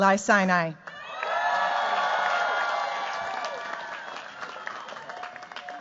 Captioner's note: cheers, applause